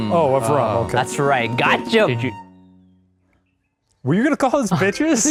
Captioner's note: birds chirping